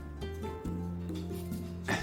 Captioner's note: chuckles